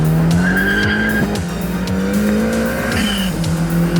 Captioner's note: tires screeching